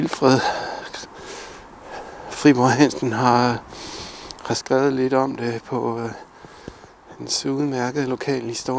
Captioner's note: in Danish